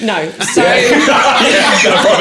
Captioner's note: laughing